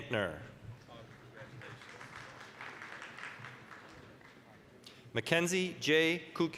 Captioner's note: applause